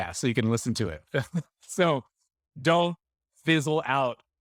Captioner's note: laughing